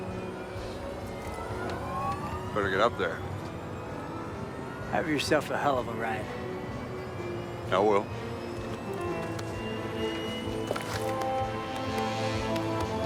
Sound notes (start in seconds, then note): 0.5 siren; 8.6 footstep